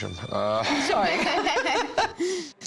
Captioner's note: laughter